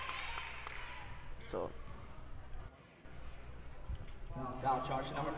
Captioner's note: crowd talking